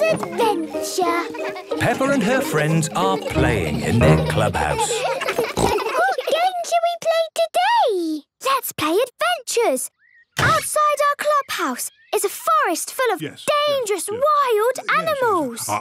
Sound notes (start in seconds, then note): 4.7 giggles, snorts